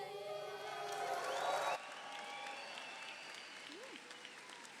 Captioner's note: audience applauds